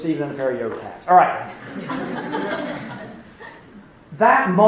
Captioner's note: laughing